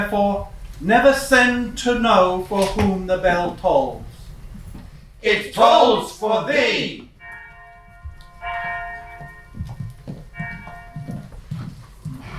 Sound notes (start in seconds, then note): 7.2 bell ringing